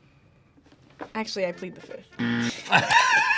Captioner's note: buzzer rings; both laugh